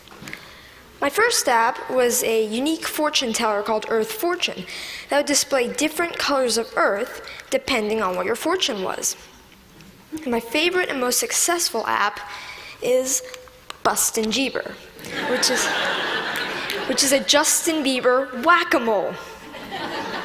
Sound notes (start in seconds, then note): 15.0 Laughter